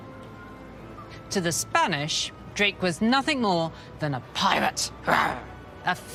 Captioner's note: roar